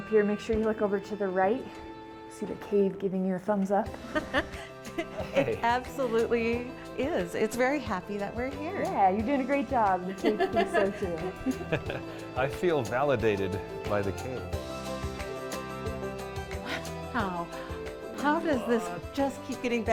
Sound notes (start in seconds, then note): 4.9 laughing; 14.4 calming music